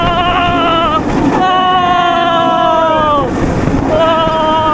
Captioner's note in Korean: 아아아아아아아아아